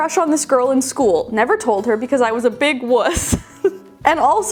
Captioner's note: giggling